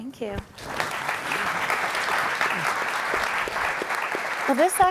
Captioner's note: applauding